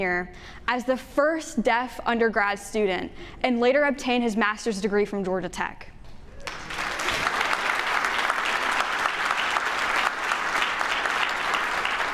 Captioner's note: entire room claps